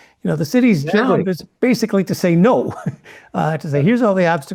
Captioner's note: laugh